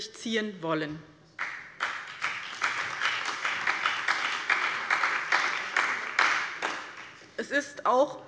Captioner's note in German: Beifall bei dem BÜNDNIS 90/DIE GRÜNEN, der CDU, der SPD und der FDP